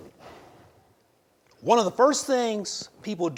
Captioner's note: exhales